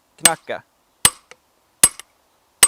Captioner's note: peening